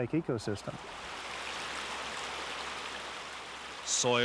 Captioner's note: water flowing